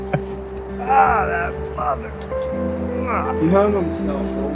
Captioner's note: Rick laughs; groans